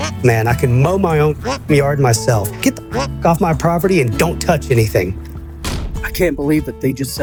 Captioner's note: duck noise; duck noise